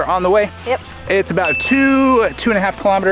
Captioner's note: notification bell dings